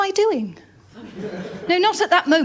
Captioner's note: laughter